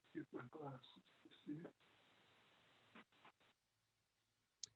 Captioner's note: man chattering